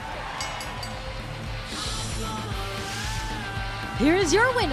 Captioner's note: bell ringing